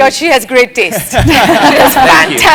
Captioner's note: laugh